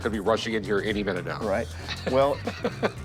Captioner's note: laughs